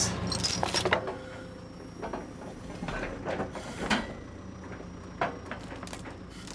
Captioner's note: forks and wood clanging together